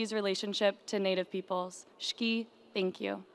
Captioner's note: speaking in foreign language